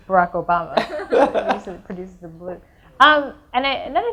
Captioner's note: audience laughs